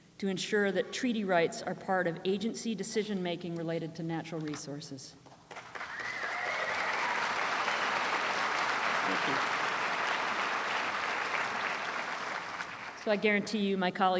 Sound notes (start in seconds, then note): 8.8 applause